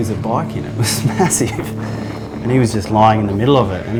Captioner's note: laughter